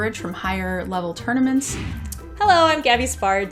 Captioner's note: air whooshing